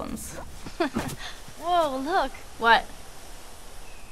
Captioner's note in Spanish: Ellie se rie